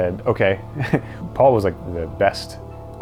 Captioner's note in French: en riant